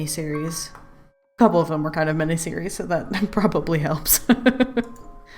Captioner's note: laughs